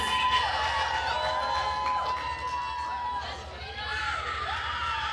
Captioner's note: attendees cheering and applauding